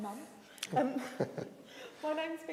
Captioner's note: chuckles